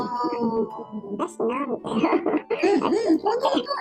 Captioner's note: laughs